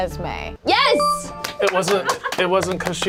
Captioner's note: bell chimes